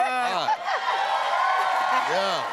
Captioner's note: cheers and applause